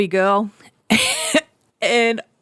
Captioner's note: chuckling